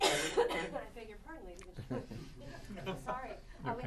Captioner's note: laughter